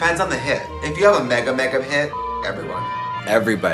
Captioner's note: beep